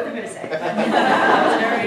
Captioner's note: laughter